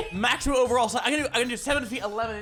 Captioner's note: none